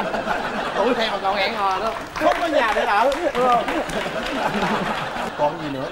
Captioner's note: laughing; clapping